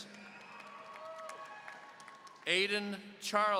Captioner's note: audience cheering